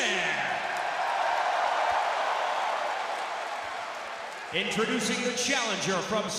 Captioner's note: crowd cheering